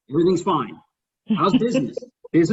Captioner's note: laughs